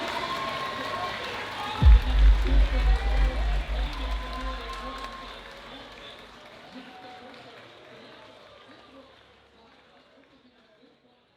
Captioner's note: crowd cheering